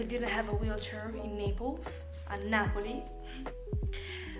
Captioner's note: in Italian